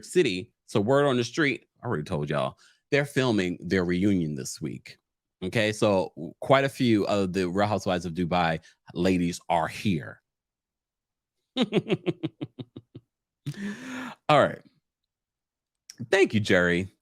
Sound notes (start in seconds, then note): 11.6 chuckles